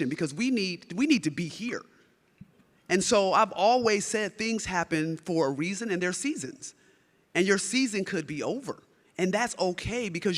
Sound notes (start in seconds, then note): none